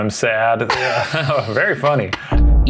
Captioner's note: laughing